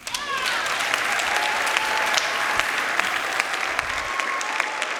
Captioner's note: crowd applauding